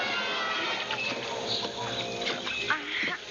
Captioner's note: water splashing; crying